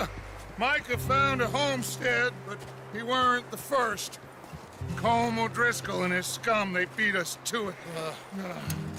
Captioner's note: scuffs